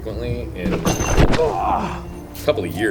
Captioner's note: metallic sound